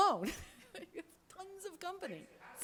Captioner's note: laughs